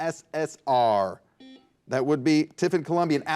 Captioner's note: buzzer buzzes